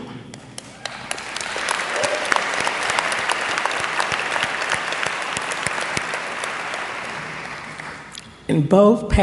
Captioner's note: applause